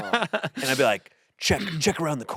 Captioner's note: laughs